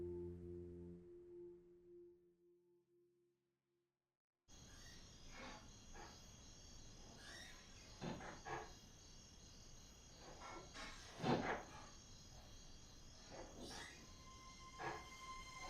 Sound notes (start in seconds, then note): 7.8 objects clattering distantly